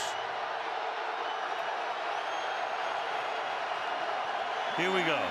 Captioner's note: cheering